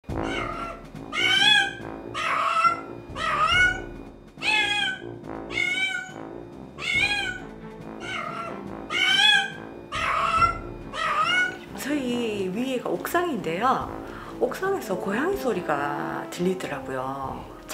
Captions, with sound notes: (Meow) (Meow) At an apartment, for months already a cat’s been crying Above us is the rooftop. But, I’ve been hearing cat cries from the rooftop